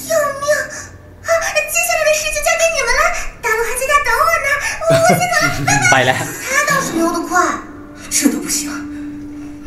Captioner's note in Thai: เสียงหัวเราะ